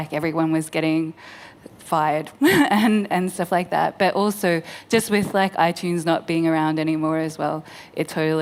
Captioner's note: laughs